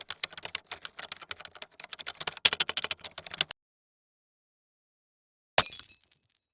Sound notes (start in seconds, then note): 0.0 keyboard typing; 5.6 glass breaking